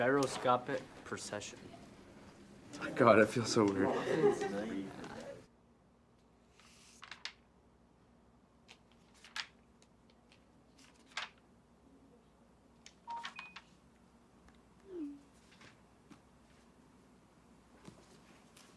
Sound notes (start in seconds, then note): 6.6 pages flick; 13.0 phone beeps